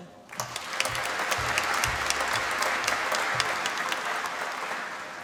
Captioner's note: applause